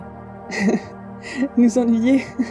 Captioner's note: Arunika laughs again